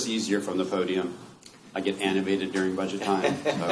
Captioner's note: laughter